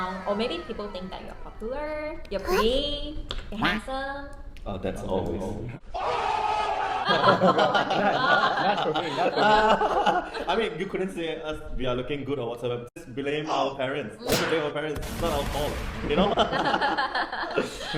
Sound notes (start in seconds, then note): 5.9 cheering; 14.2 gunshots